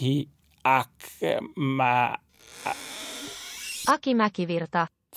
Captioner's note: weird ceeling door opens